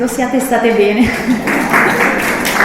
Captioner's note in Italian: Applauso